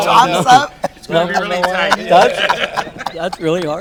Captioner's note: all laughing